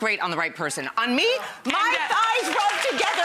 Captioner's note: audience cheers